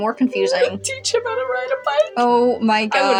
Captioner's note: snicker